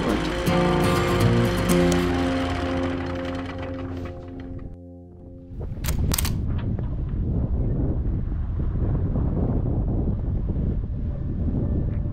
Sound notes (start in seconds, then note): 0.0 upbeat music; 5.2 wind blowing; 5.4 upbeat music